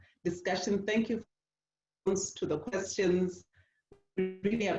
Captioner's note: distortion